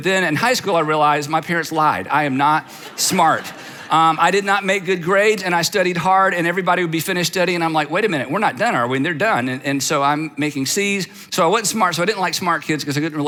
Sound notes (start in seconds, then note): 2.5 audience laughs